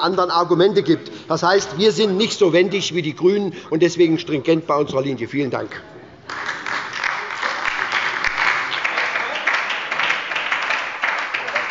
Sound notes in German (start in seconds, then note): 6.2 Beifall bei Abgeordneten der SPD und bei der LINKEN